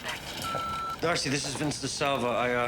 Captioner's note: machine beeping